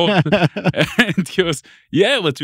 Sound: laughing

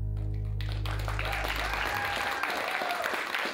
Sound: applause

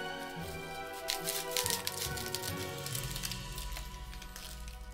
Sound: Cronchy snips

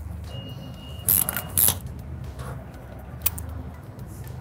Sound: tool clicking

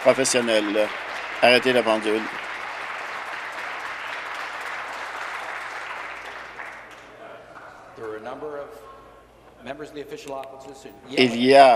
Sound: applause

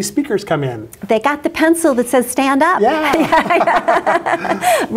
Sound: laughs

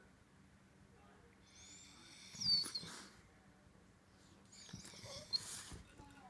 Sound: whines

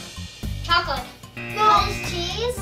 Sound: buzzer

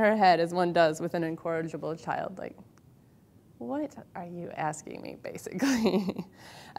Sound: laughs

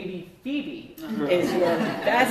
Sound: laughter

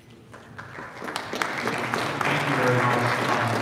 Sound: audience applauding

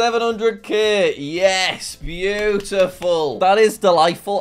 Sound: clapping

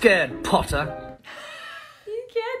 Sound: laughs

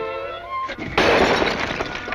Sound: smashing

